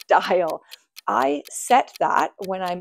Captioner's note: timer ticking